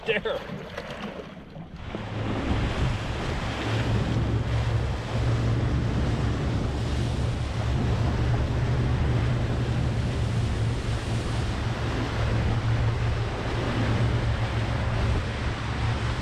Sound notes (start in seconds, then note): 1.9 boat engine running; 4.1 waves lapping